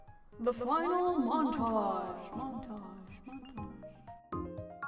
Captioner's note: echo